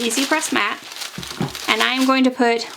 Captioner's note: paper rustling